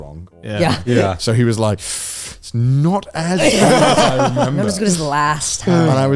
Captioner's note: inhaling